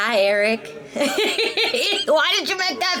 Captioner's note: Jasmine laughing